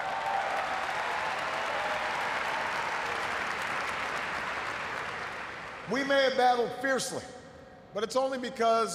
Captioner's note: cheers, applause